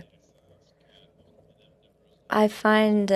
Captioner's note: speaking French